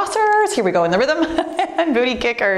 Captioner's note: cheerful laughing